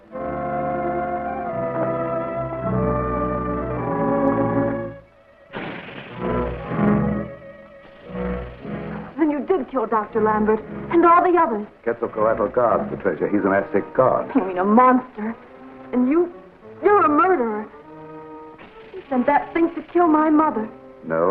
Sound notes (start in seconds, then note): 0.2 dramatic music; 5.5 serpent hisses and rattles